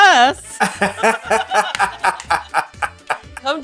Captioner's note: laughs